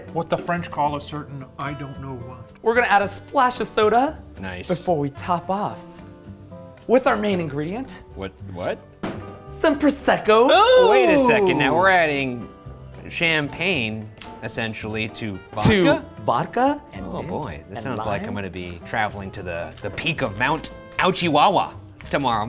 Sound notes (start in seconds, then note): 10.2 gasps